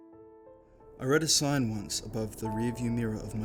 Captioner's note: voiceover